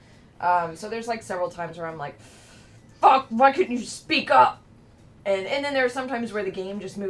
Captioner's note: inhale